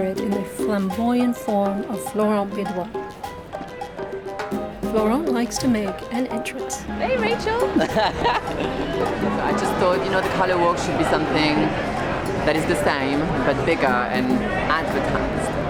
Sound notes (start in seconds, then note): 3.1 lively music continues; 7.4 laughs